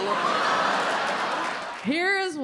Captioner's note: audience laughs